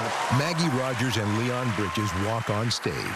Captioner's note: cheering and applause